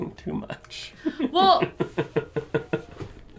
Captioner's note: laughter